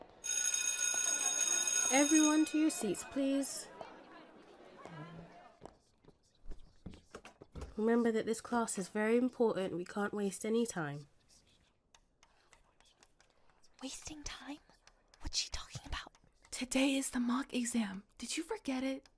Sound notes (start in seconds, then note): 0.0 school bell rings; 11.8 students whispers